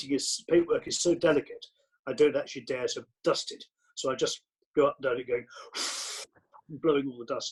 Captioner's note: blow blow